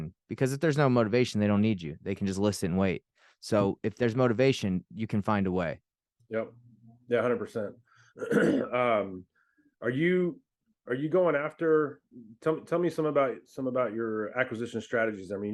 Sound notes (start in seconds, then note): 8.1 clears throat